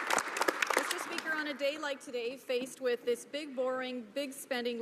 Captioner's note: some applause